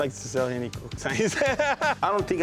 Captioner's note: laughs